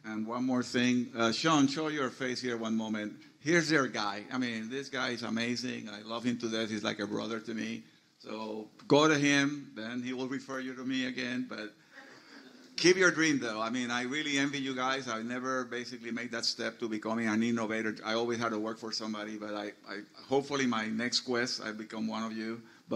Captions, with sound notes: And one more thing, Sean, show your face here one moment. Here's your guy. I mean, this guy is amazing. I love him to death. He's like a brother to me. So go to him, then he will refer you to me again, (audience laughs) but keep your dream though. I mean, I really envy you guys. I never basically made that step to becoming an innovator. I always had to work for somebody, but I, hopefully my next quest, I become one of you.